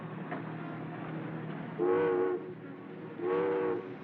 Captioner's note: ship's Horn Blows